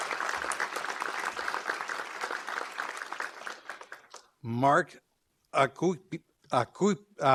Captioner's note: applause